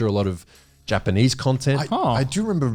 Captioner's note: laughs